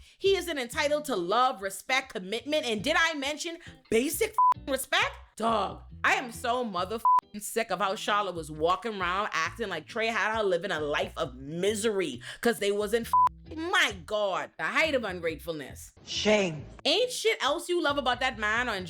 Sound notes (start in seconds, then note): 4.3 beep; 7.0 beep; 13.1 beep